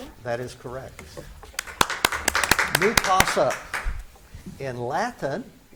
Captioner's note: spectators clap